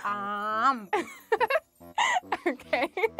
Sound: laughs

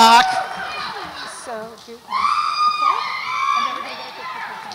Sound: audience cheers

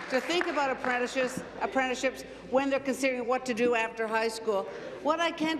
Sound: applause

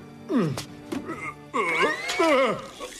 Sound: straining

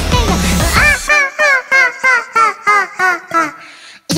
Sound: cute laugh

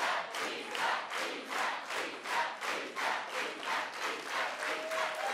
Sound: cheers and Applause

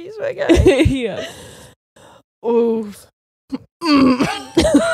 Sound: chuckles; clears throat; both laughing

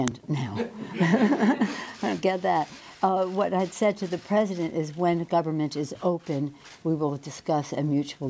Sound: laughs

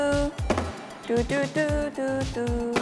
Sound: the water bottle flops

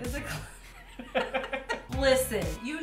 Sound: laugh

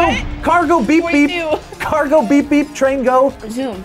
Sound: laughs

